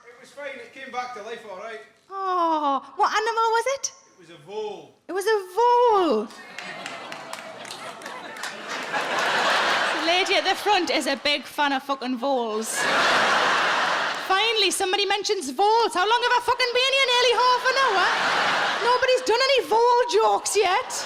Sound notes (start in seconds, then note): 6.3 audience sporadically applauding; 8.9 audience laughing; 12.6 audience laughing; 17.2 audience laughing